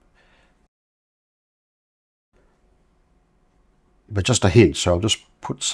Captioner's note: silence